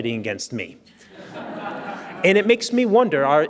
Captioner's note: audience laughs